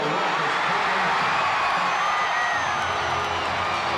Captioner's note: crowd cheering